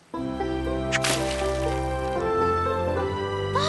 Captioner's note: splash